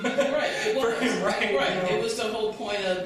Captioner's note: laughs